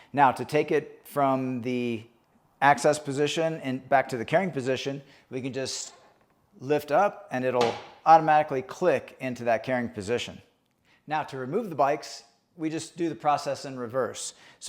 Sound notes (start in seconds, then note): 7.6 rack clicking